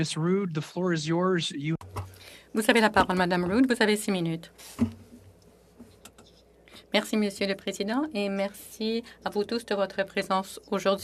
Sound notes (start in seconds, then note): 9.3 speaking French